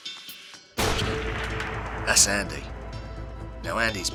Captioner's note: dramatic noise